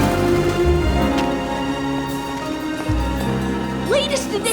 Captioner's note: trolley bell rings